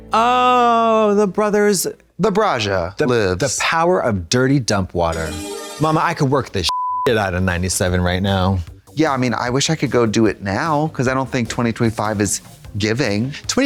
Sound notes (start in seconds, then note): 5.1 bright chime; 6.6 beep